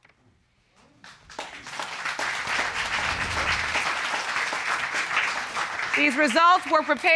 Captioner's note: applause